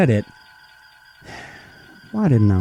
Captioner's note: sigh